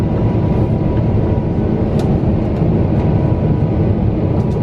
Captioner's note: engine whines softly